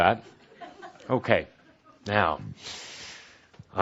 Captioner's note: some laughter